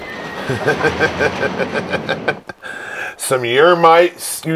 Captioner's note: laughing